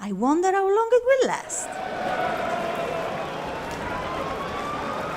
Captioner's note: sirens wailing